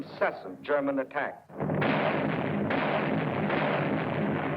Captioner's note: artillery firing